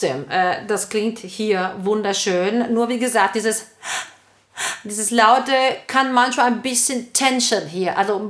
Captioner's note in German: Atmen